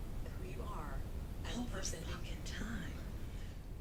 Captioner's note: in a whisper